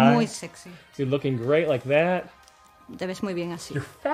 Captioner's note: speaks in english